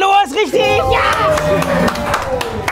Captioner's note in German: Jubel, Applaus